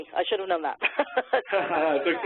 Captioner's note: laughs